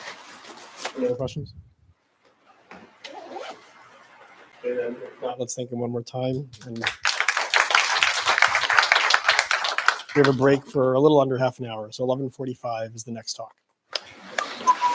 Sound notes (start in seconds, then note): 6.6 applause